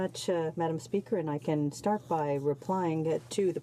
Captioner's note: speaking in french